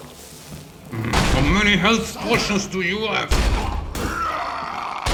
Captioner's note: grunts